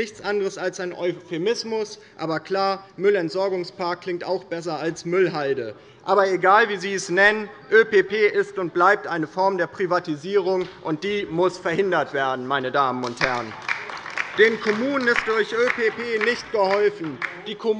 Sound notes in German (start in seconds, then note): 13.0 Beifall bei der LINKEN